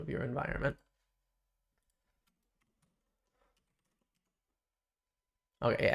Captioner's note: silence